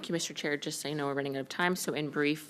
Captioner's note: speaking French